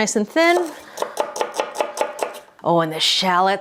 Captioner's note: knife thumping